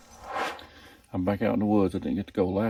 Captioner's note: air swooshes